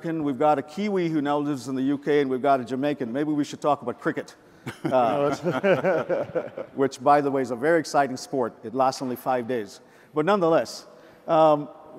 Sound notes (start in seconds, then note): 4.6 men all laugh